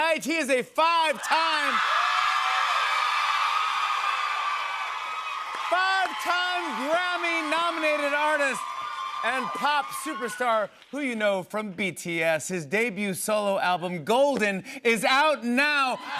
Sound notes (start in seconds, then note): 1.5 cheers and applause